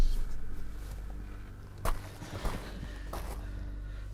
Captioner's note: feet clopping